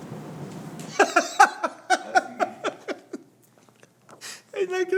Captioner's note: laughs